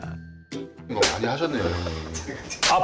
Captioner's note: slap